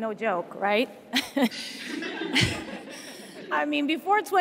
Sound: laughs

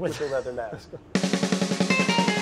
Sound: laughs; upbeat music

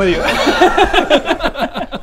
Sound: cowardly laugh

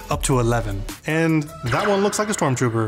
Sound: graphics zap

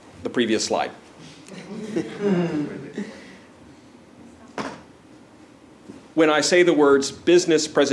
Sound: laugh

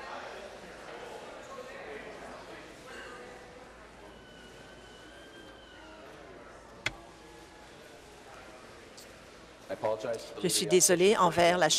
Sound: conversation din

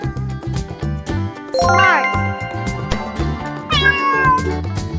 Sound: cat sound

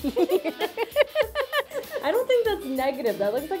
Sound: laughs

